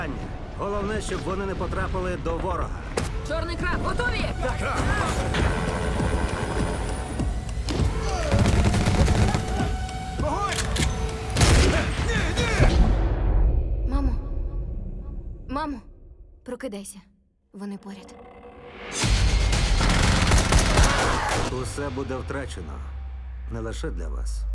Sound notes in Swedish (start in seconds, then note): 4.6 helikopterljud